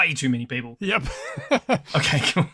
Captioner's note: laughs